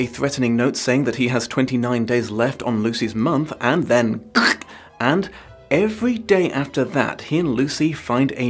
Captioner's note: guurrch